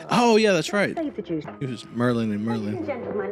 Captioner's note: quietly, amused